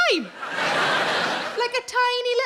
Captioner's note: audience laughing